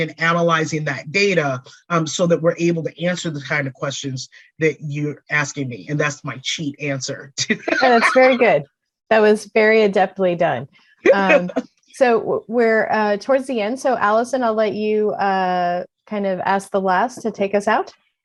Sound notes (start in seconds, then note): 7.4 laughter